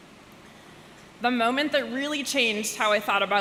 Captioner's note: none